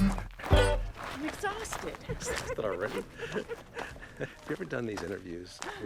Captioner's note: laughs